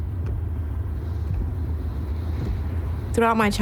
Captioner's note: shoes thudding